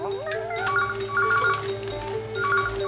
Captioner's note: phone Rings